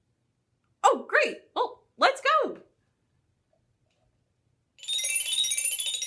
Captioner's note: bell sound